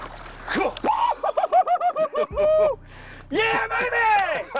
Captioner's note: cheering, yelling